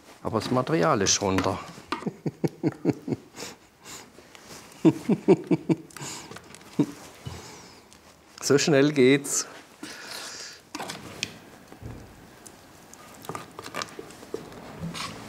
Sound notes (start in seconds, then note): 2.0 he laughs